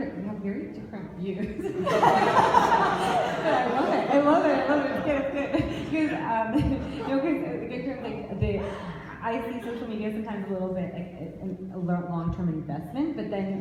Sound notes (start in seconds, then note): 1.6 laughs; 3.0 audience laughs